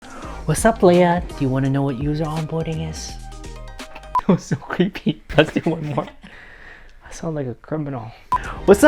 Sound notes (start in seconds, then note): 3.8 laughs; 5.3 muahaha